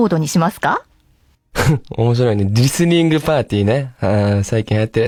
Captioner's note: laughs